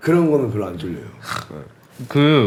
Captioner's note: snorts